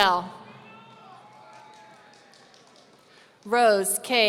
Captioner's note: audience cheering